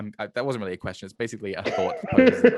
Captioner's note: laughing